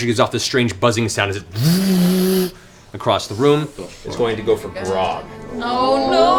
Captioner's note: vrrrrr